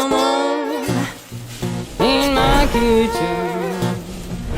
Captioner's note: fire sizzling